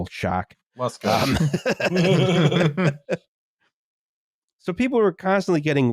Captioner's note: laughter